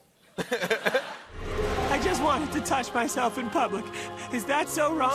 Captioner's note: laughter